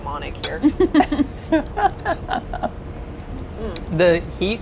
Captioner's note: laughs